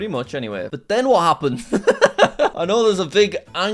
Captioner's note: laughs